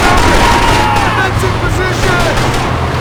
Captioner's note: gun firing